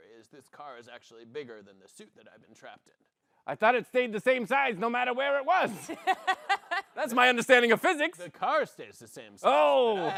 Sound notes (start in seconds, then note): 3.7 gruffly; 5.8 laughs; 7.2 gruffly